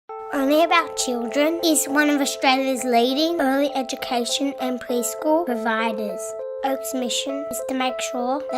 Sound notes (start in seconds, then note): 0.2 child's voice